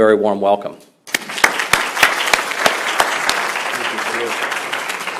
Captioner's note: applause